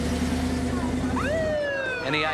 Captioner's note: police siren blaring